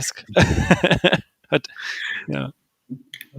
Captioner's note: laughs